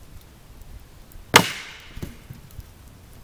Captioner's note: beeg crack